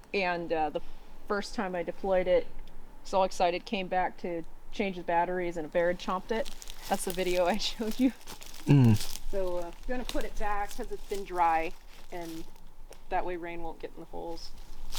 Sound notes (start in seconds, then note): 8.6 chuckles